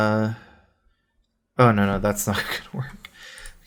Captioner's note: laughs